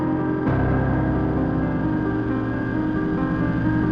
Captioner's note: plane whining